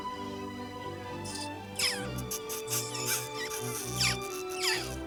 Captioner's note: loving smooch